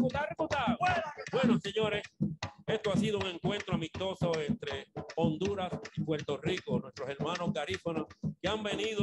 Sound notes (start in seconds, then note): 1.6 man speaks in foreign language